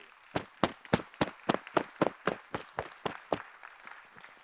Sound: group applauding

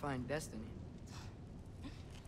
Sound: laugh

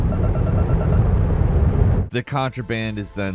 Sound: device beeping

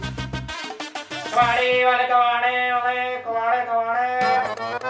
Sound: shouting

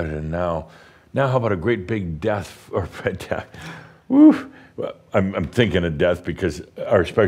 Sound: Adamus chuckles

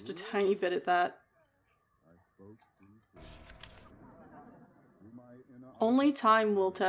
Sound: radio Man Talks, Audience Laughter

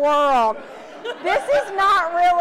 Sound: audience laughs

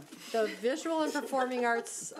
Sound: laughs

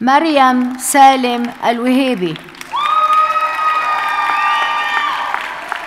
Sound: audience cheers and applauds

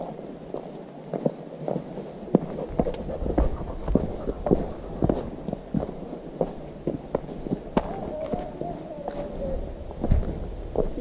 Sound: dogs

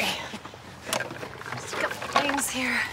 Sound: rummaging

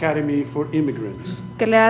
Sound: speaking foreign language

